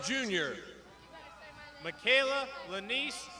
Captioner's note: crowd shouting